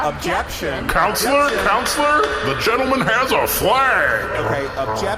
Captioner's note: gavel sound